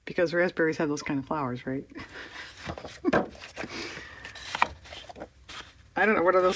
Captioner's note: laughs